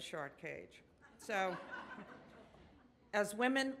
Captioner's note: audience laughs